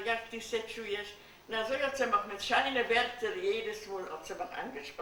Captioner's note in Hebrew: פולנית